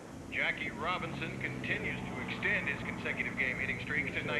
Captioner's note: man over radio